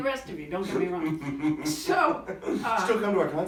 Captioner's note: laughing